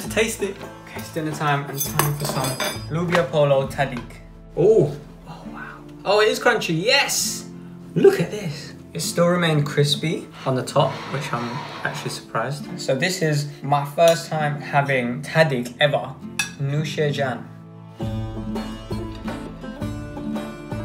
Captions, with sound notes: - Time to taste it! Okay, it's dinner time. It's time for some loobia polo tahdig. Ooh, oh wow! Oh, it is crunchy! Yes! Look at this! It still remained crispy on the top, which I'm actually surprised. So this is my first time having tahdig ever. (speaks in foreign language) (soft music)